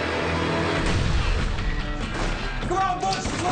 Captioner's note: guns firing